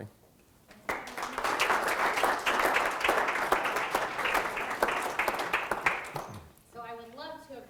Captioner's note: applause